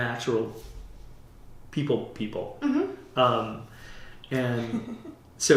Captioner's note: laughter